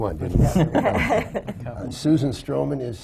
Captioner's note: laughter